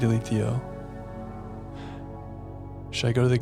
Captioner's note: sighs